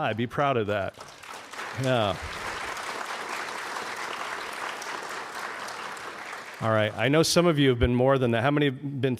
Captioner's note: applause